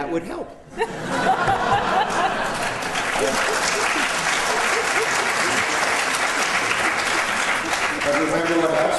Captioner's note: laughter